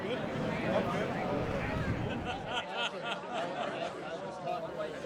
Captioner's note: alumni chatting and laughing